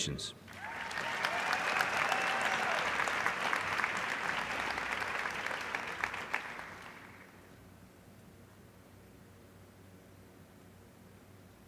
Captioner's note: applause